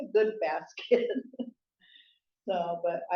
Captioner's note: laughs